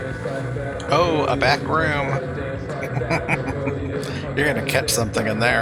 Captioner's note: chuckling